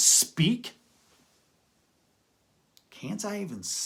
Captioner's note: pause